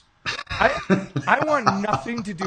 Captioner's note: laughing